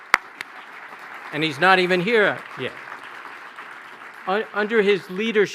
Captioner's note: applause